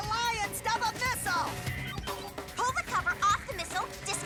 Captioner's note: watch rings